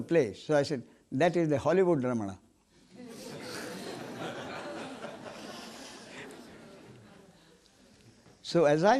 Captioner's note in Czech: smích